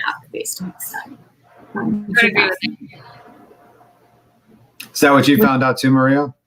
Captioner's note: radio interference drowns out speaker